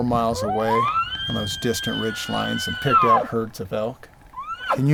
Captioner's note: hunter Bull Call